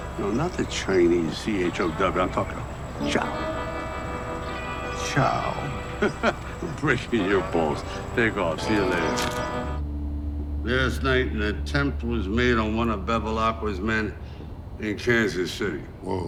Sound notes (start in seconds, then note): 5.6 Dwight giggling